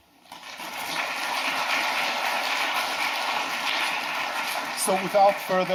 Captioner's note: claps